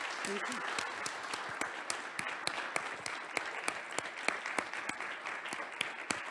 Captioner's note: audience applauds; audience continues applauding